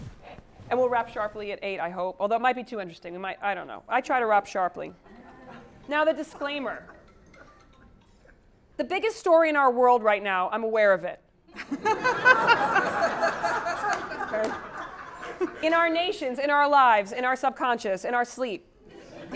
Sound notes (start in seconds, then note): 11.6 laugh